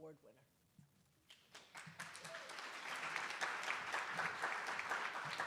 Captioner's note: attendees applauding